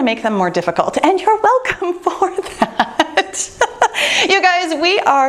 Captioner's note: laughing